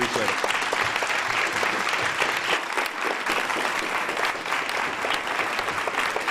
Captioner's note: applause